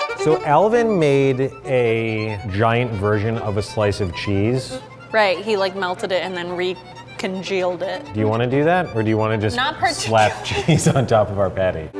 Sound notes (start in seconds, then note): 0.0 intense string music; 10.3 laughing